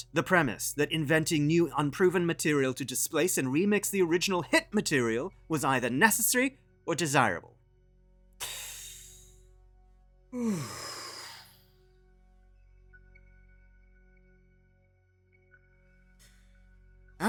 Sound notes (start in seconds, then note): 10.3 deep Breath